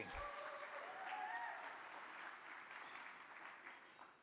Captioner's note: audience cheering